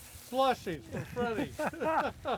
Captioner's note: laughing